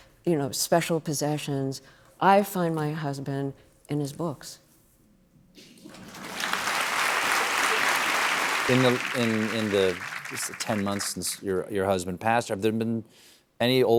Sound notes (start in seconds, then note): 5.8 applause